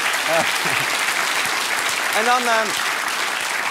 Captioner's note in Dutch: gelach en applaus